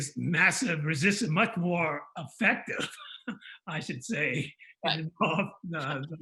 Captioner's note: laughs